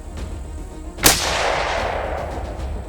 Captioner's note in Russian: выстрел